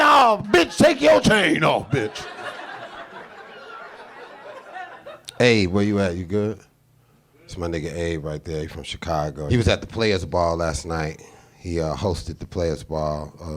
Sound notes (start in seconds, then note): 1.2 audience laughing